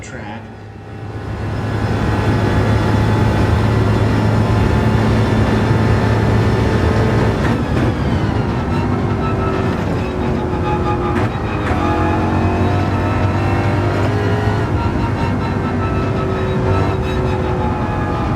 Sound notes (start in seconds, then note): 1.2 engines revving, cars noises